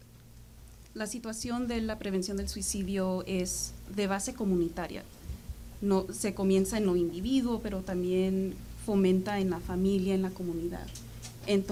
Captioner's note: speaking spanish